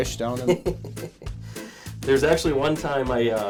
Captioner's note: chuckles